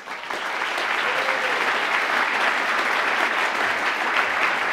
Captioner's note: applause